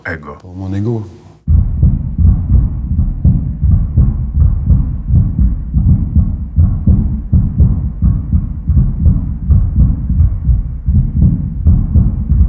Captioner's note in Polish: odgłosy bicia serca